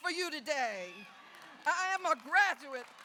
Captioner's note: audience cheers